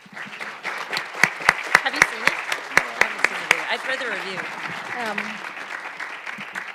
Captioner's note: applause